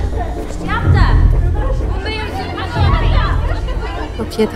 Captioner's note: frantic chattering